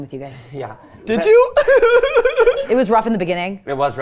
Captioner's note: laughs